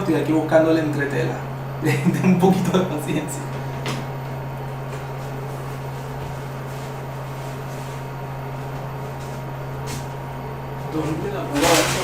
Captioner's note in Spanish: risas